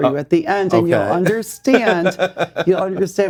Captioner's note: laughs